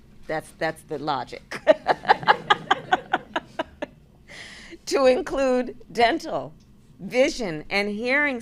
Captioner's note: laughter